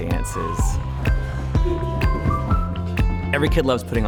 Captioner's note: children laugh